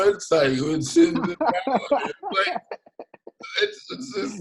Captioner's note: laughs